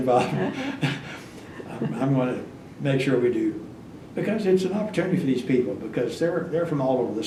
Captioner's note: laughs